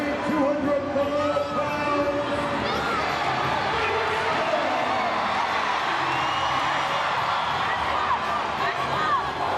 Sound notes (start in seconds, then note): 3.5 crowd chattering; 3.5 crowd cheering